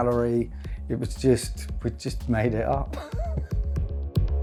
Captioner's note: curious electronic music; chuckles